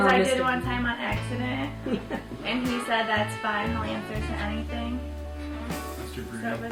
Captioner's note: laughing